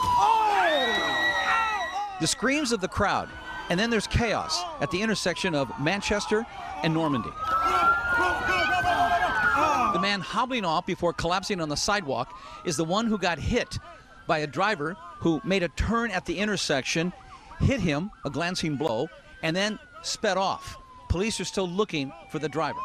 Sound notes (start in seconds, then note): 7.4 screaming; 13.5 sirens